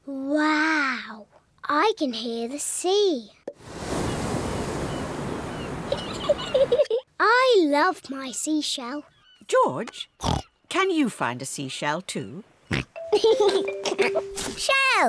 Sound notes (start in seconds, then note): 3.6 wave noises; 3.9 seagulls shriek; 5.9 giggles; 13.1 oinks and giggles